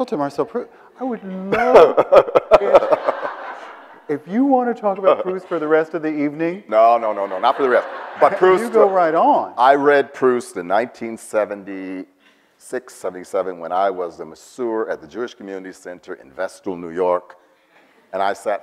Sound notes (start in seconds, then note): 1.4 Bill laughs; 7.0 audience laughs